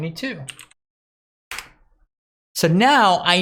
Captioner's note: keyboard keys clicking